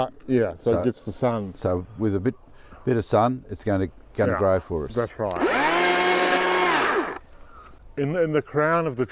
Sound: chainsaw

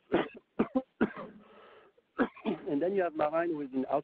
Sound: coughs

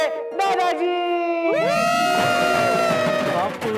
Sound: cheering

